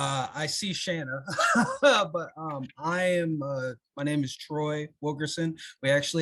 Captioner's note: chuckles